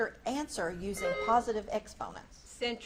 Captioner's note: buzzer beeps